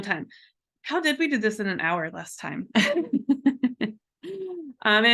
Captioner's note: laughs